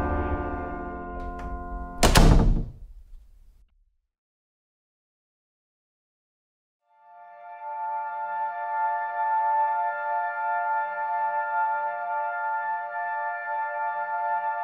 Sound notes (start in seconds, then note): 1.2 door bangs; 6.9 soft music